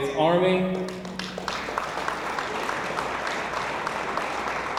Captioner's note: audience applauds